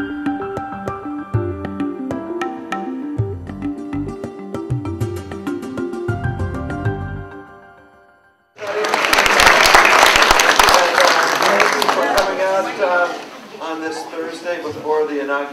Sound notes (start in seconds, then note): 8.6 applause